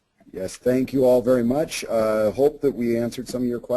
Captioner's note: voiceover